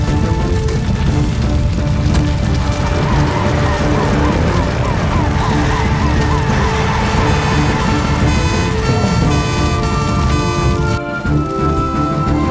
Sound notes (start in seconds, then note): 5.7 sirens Wailing